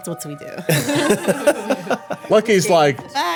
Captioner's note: everyone laughing